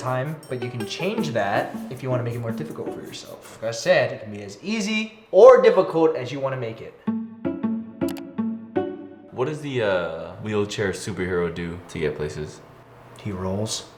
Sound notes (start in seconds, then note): 7.0 light string music continues; 8.0 mouse click